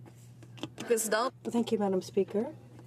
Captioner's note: speaking french